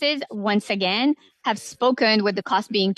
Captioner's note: speaking French